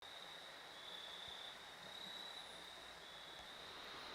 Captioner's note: crickets